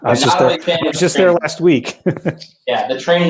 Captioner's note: laughter